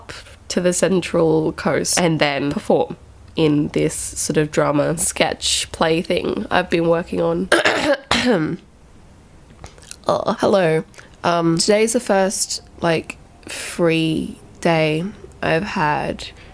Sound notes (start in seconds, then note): 7.5 coughing; 9.9 groan